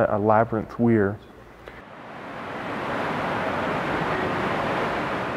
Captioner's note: water